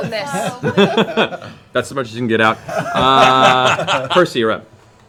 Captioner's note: laughs